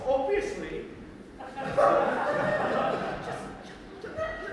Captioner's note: audience laughter